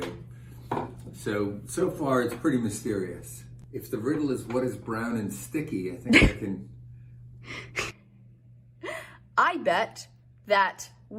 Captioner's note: laughter